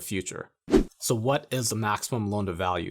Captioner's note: air whooshing